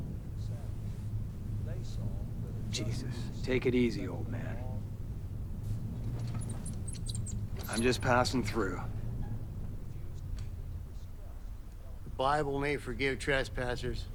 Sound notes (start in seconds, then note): 6.0 wheelchair squeaking